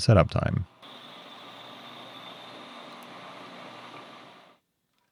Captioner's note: tool humming